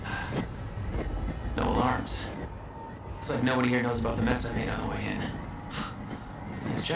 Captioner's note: sighs